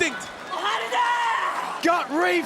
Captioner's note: Meiko shouts